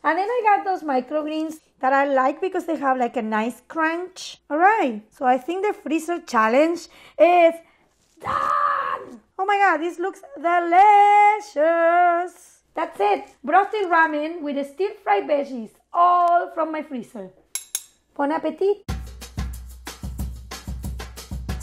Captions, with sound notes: And then I got those microgreens that I like because they have, like, a nice crunch. All right, so I think the freezer challenge is done! Oh my God, this looks delicious! That's it, brothy ramen with steam fried veggies. All from my freezer. [spoons clinking] Bon appétit. [upbeat music]